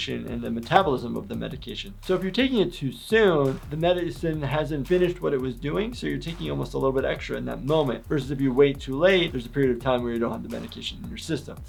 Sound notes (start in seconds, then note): none